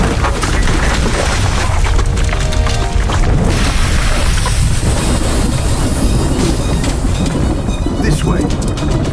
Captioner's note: devastation roaring as people run